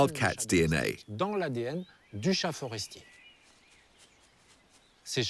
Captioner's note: French spoken audio